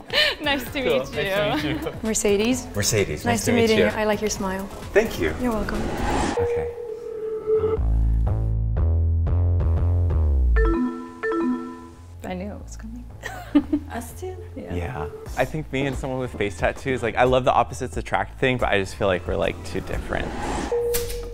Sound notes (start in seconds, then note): 8.6 dramatic music; 10.5 laser bleeping